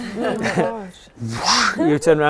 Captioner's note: whoosh